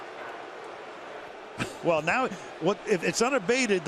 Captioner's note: chuckles